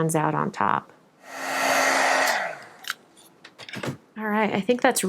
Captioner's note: air blows